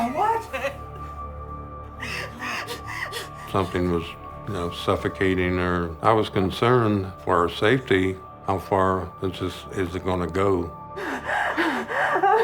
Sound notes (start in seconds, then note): 2.0 sobs; 11.0 heavy gasping